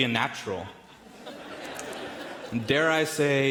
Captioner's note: audience laughing in the background